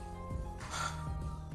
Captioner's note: sighs